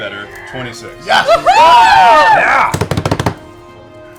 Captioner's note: cheering